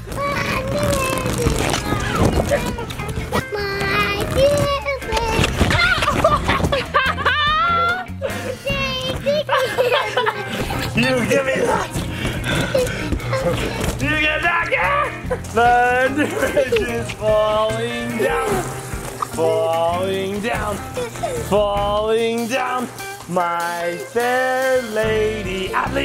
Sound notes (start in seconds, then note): 5.8 laughs